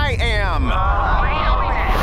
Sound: groaning

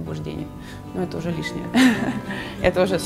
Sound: laughing

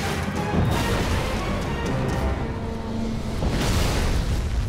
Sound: landmine exploding; tank thudding in gravel

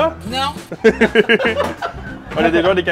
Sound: laughs

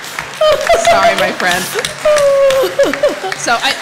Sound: laughter; applause

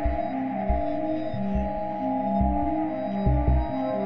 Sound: none

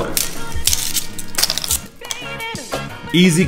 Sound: cookie crunching

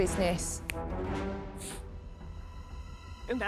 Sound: snaps fingers

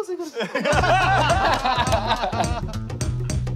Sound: laughter

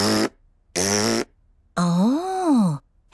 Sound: blows raspberry

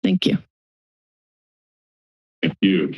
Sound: silence

